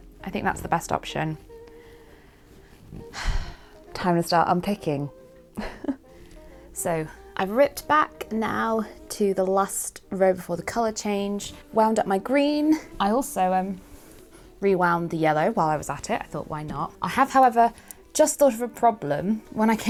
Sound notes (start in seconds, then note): 2.8 sighs